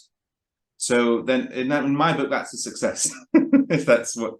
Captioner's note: chuckles